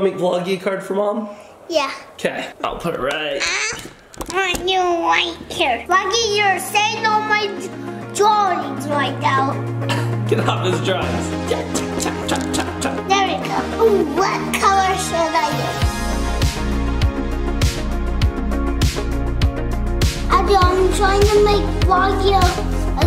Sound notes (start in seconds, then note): 4.0 grunts; 16.1 energetic music